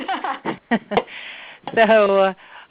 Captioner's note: laughter